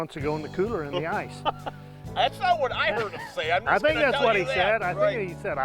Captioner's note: laughing